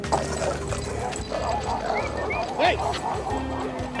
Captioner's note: dogs barking